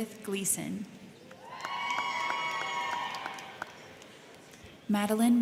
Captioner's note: crowd cheering; crowd clapping